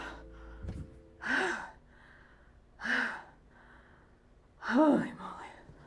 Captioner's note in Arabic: تنفس بصعوبة